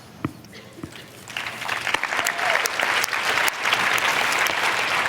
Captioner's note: applause